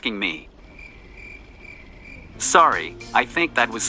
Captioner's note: crickets chirping